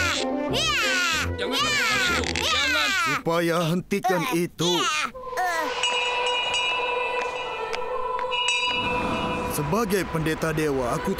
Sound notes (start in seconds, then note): 5.6 bell ringing; 6.6 soothing music